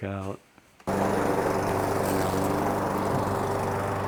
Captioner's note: sound of gas lawn mower